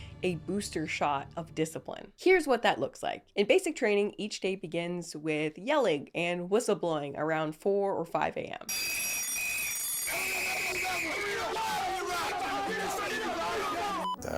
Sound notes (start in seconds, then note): 8.7 bell ringing; 8.8 whistle blowing; 11.4 drill sergeant yelling orders